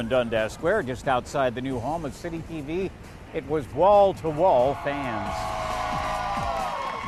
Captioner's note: cheering